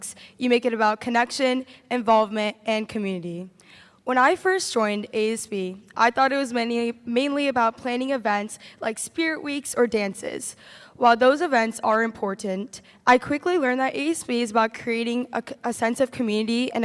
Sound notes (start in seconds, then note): none